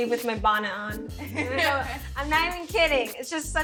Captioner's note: laughs